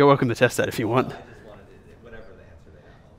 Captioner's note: voiceover